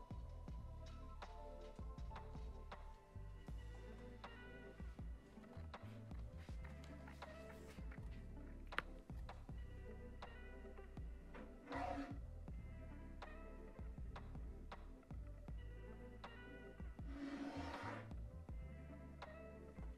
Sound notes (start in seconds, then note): 0.3 soft upbeat music continues; 5.7 papers whooshing; 11.7 cutter grinding